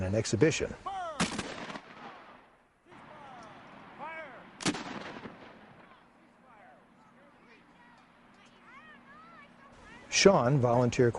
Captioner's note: man yelling Fire, sounds of cannon explosions heard in background